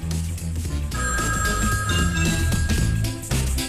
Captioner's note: phone rings